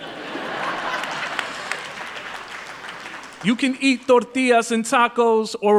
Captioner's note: applause